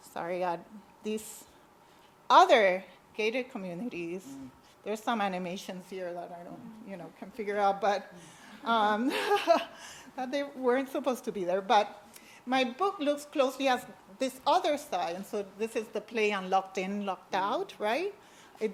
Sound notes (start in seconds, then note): 8.2 laughs